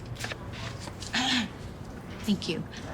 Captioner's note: clears throat